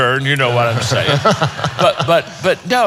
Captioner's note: laughing